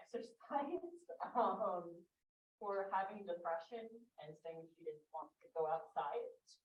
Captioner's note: chuckles